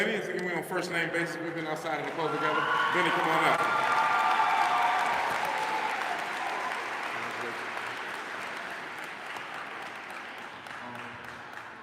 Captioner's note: applause